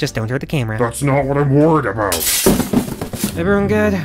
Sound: sound of glass shattering

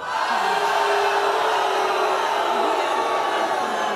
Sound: crowd jeers

